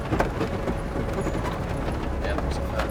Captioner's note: vehicle rattling; suspenseful music continues